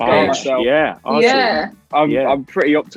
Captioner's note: all chattering